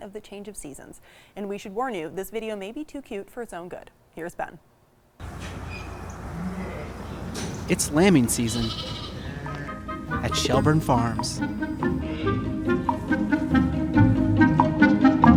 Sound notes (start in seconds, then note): 8.8 sheep bleats; 11.4 playful music